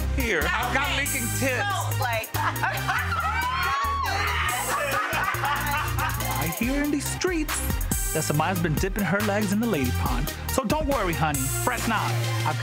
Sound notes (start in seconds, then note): 2.3 both laughing